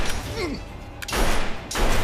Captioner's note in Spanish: Disparos